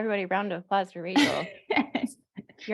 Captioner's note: laughs